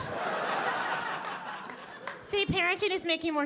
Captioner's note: audience laughing